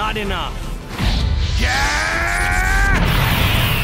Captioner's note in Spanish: Gritos